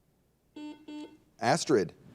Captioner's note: buzzer dings